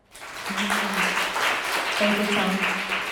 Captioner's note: audience applauding